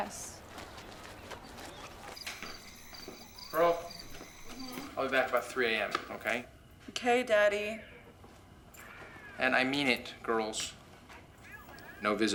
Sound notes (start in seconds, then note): 2.1 crickets chirping